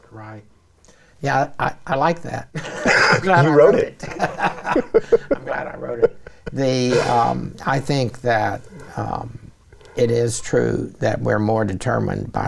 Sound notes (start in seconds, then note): 2.5 laughing; 2.5 laughs